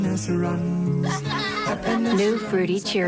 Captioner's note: laughter